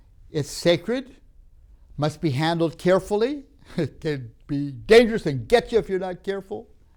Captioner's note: laughs